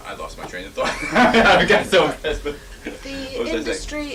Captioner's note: laughs